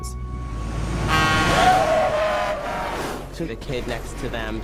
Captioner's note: truck horn blares